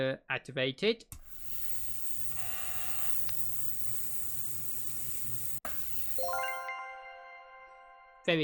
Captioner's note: ultrasonic cleaner sound